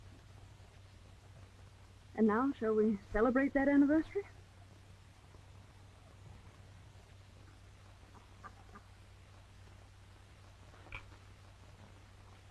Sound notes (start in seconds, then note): 8.0 ducks quacking